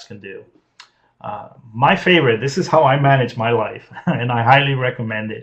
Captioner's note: laughs